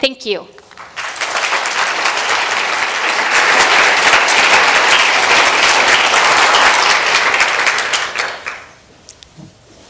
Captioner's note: applause